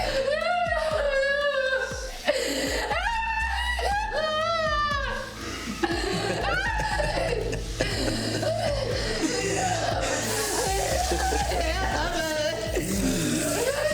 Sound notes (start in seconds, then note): 0.3 Mia crying; 5.2 Mia crying; 8.3 dramatic music; 10.0 Ben laughing